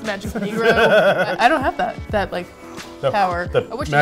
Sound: blows air

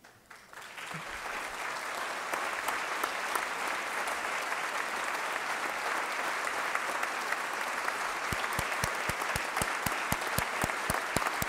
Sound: applause

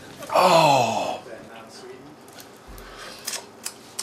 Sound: voiceover

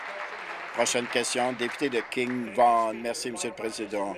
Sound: applause

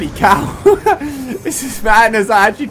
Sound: laugh

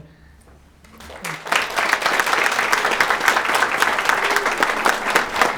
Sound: audience applauding

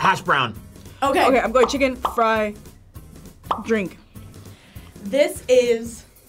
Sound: bubble popping; bubbles popping

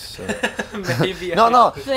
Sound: man laughs

